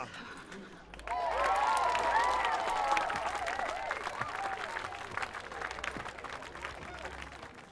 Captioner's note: cheers and applause